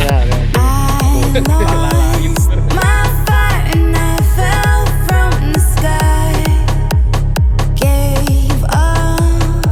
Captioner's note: laugh